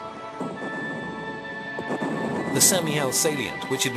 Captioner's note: heavy artillery booming